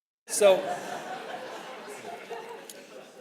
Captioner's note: audience laughing